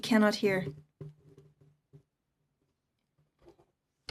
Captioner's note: speaking French